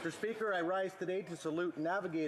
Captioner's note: applause